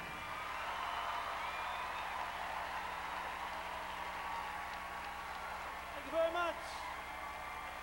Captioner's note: crowd cheering